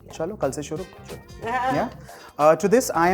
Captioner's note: giggles